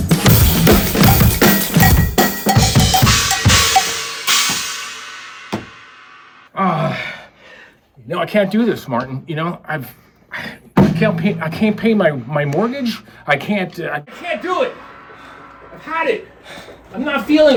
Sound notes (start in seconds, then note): 0.7 cowbell clanging; 4.4 Martin stoming